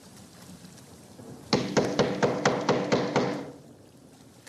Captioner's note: loud knocking